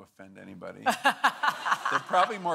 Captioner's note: laughing